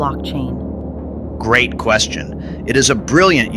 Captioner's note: excited